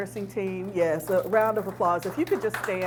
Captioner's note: audience applauds